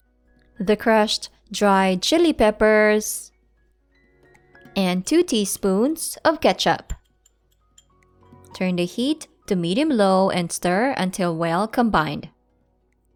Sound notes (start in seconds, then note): 6.8 spoon clanking